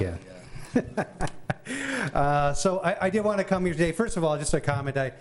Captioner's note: chuckling